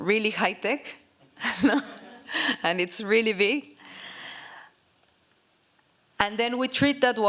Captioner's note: laughs